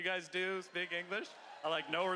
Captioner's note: cheering